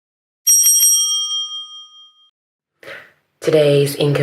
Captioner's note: bell rings